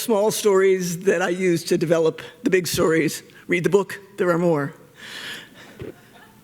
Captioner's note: laughter